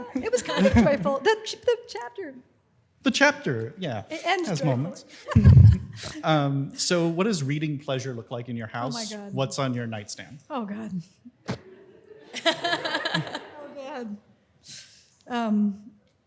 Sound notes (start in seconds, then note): 11.5 laughs